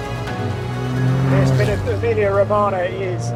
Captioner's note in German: Motorgeräusche